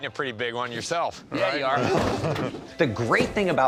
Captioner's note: chuckles